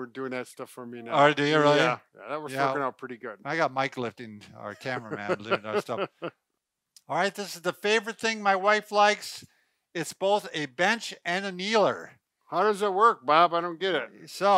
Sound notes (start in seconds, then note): 6.3 laughing